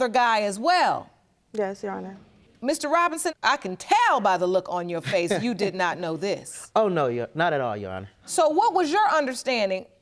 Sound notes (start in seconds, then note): 4.8 laughing